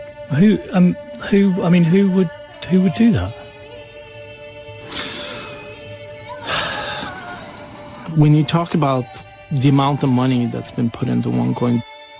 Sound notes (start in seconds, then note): 0.1 Tartamudeando; 6.4 Suspiros